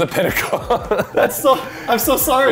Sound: laughter

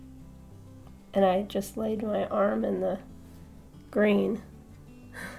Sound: giggle

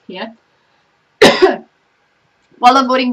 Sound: coughs

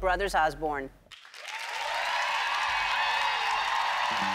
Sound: audience applause

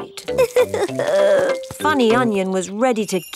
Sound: crying

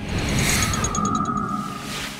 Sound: ticking; whirring; mellow music

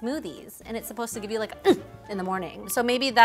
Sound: grunts

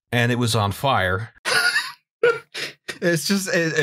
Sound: laughter

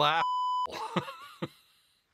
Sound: laughter

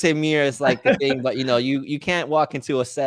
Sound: chuckling

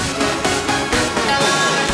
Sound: echo

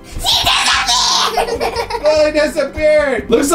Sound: laughing

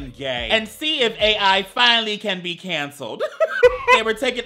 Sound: laughs

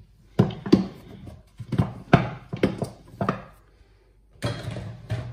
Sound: utensil clattering

